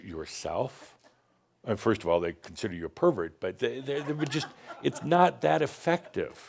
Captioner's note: a few chuckles